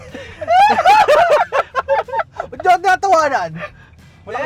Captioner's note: laughs